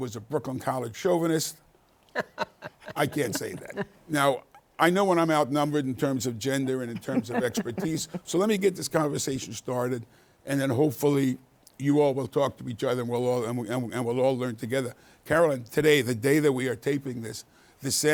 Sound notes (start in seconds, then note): 2.1 laughing